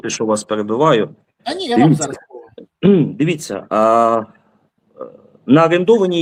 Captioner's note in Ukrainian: прочищення горла